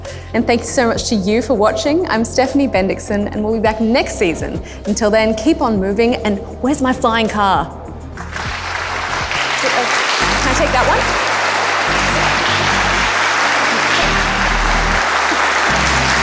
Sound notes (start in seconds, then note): 8.2 applause; 12.0 electronic music; 14.0 laughs